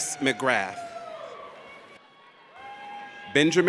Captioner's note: audience cheers